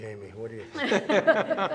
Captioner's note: laughter and Applause